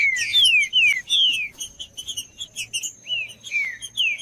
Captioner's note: trinca ferro cantando